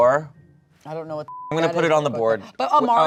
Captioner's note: beep